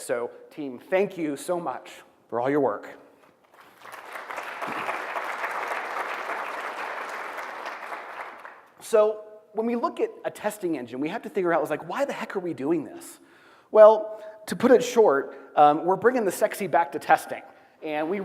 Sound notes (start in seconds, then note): 3.4 applause